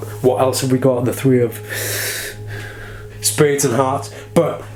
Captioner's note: inhales